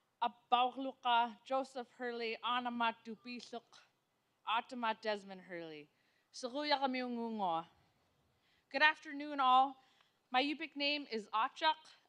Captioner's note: speaking non-english